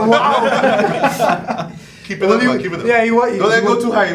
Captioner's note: all laughing